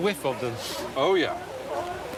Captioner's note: sniffs